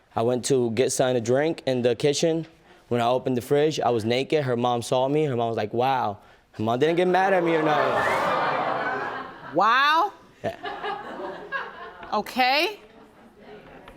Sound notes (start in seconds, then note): 6.9 audience laughs; 11.0 scattered laughter